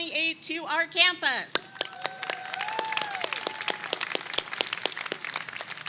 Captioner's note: attendees clap and cheer